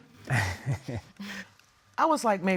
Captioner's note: chuckles